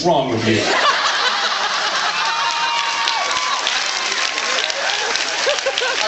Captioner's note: laughs